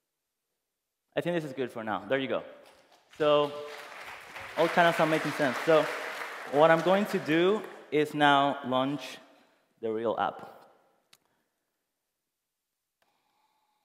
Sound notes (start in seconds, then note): 4.7 applause